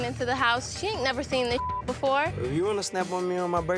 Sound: beep

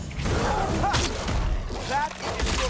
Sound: laugh

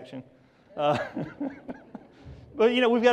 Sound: laughs

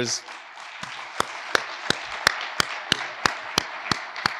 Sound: audience applauds

